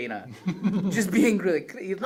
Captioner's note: laughs